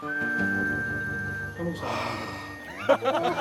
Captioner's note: sighing